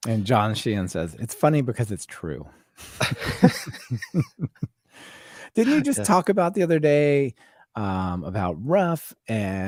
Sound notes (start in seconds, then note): 2.8 both laughing